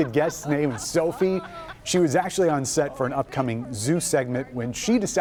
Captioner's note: laughter